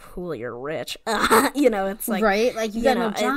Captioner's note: laughs